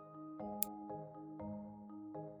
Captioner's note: click sound